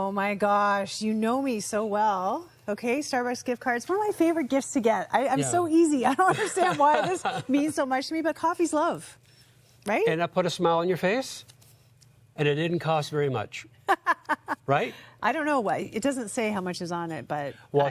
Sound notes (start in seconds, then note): 13.9 chuckling